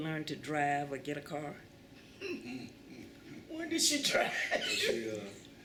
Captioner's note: laughter